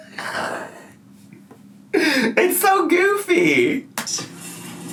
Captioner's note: laughs